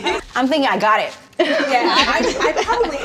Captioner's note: all laughing